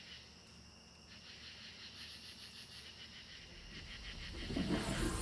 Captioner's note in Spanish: los insectos chirrian